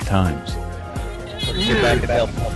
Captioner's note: Adam Sandler squeaking